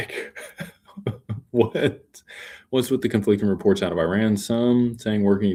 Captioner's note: laughter